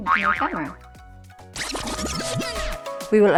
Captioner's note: tape rewinds